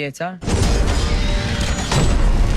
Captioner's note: metallic clunks